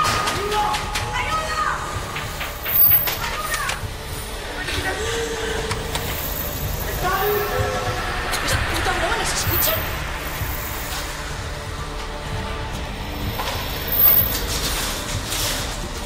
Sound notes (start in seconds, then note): 2.8 bangs